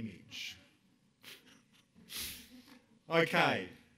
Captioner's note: chuckles